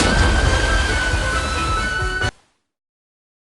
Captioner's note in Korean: 첨벙